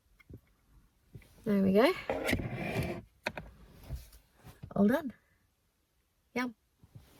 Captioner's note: clunky sliding noise